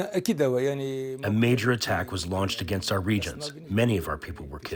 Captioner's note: through translator